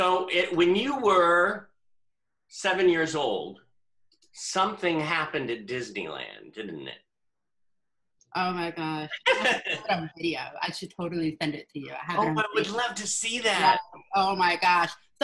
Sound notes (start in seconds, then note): 9.1 laughs